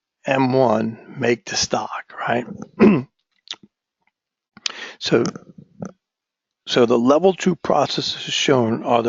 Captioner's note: cough